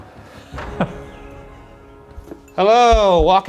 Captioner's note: chuckling